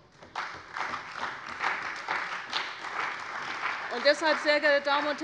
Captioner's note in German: Beifall bei der CDU und dem BÜNDNIS 90/DIE GRÜNEN